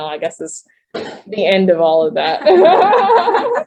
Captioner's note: laughter